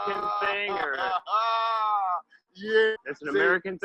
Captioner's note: laughs